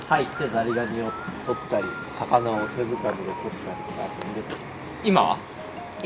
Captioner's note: laughs